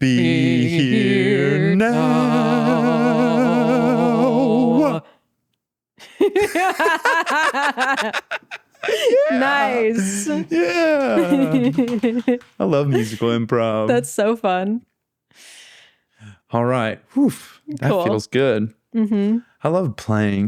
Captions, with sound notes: Be here now (laughing) Nice. I love musical improv. That's so fun. All right. Cool. That feels good. I love playing.